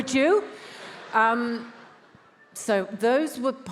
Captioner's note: attendees laughs